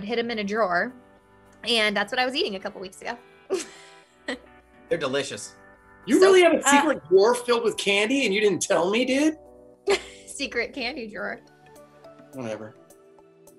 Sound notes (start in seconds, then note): 3.5 Miranda chuckles; 13.3 upbeat music